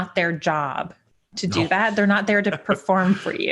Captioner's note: laughing